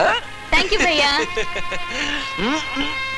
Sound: laughs

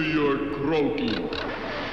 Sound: water splashes

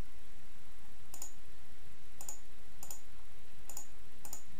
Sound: mouse clicking

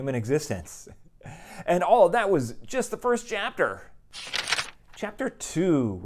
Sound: page turn

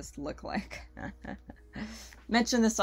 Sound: giggles

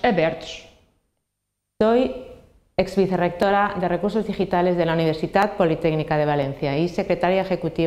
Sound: Spanish

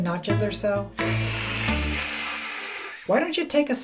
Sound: hiss

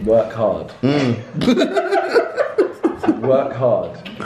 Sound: laughing

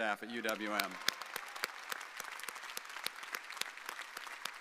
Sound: audience applauding

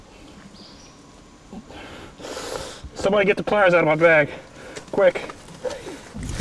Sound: breathing heavily

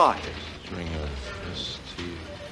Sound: Frank murmuring

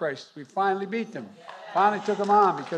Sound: applause

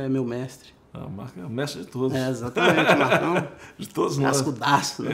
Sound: laughs

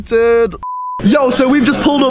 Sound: beep

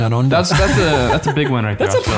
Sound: chuckles

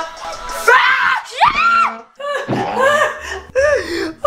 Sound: loud shouting

